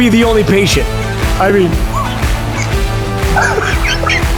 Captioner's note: laughing